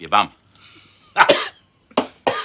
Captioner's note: laughs